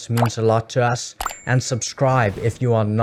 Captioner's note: bell rings